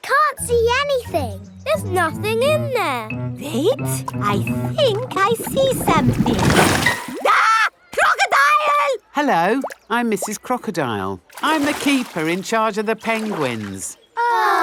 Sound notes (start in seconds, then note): 7.2 screams